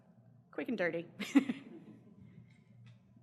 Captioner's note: laughs